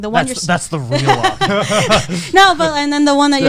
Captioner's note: both laughing